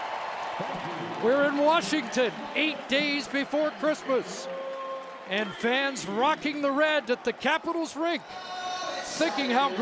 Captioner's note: cheering and Applause